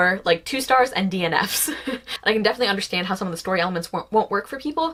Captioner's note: laughs